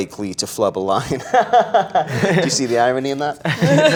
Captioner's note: laughing